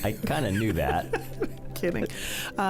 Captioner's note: laughing